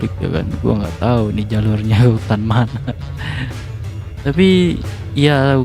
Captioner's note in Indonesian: tertawa